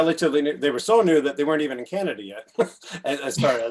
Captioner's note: chuckles